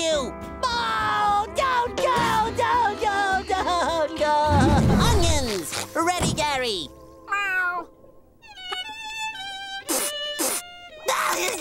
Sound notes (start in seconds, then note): 8.4 violin playing; 9.6 sniffling; 11.0 crying